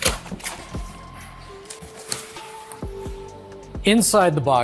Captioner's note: cardboard shuffling